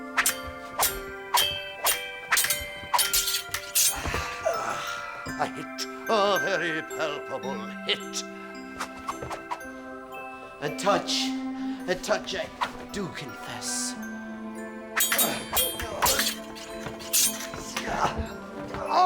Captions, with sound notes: (Swords swishing and clanging) (Jess groaning) - A hit, a very palpable hit. (sword swishing) - A touch, a touch I do confess. (swords clanging)